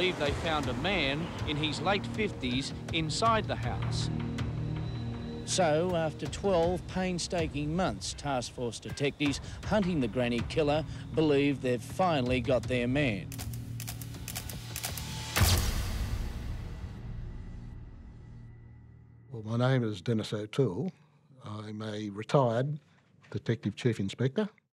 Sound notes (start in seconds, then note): 13.3 camera shutter snapping; 16.6 suspenseful music